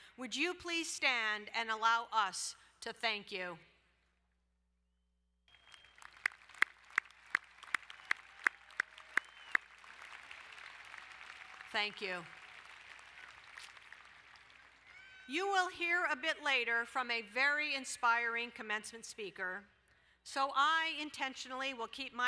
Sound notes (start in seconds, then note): 5.3 applauding